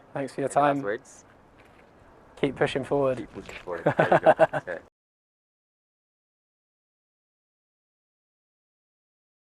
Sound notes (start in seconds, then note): 3.7 laughs